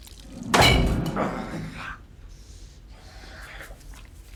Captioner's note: Nash grunts